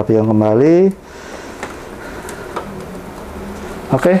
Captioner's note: inhale